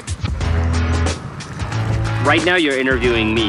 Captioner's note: sfx crowd cheering